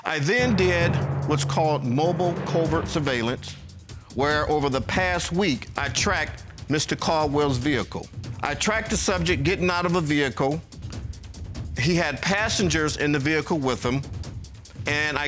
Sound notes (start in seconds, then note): none